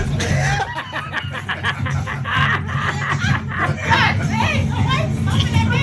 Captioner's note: group laughing